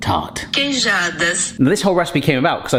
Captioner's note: phone Voice